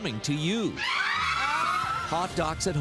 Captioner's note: screaming